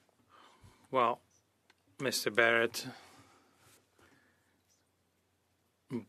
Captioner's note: speaking French